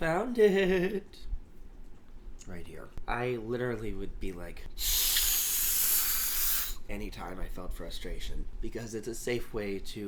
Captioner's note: blows air